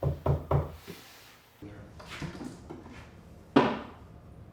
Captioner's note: knocking on board